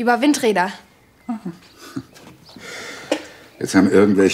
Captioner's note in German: Er lacht leise